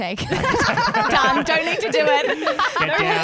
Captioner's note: laughing together